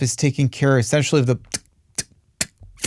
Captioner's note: tongue clicking